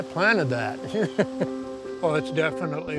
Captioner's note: chuckles